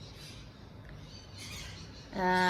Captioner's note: birds chirp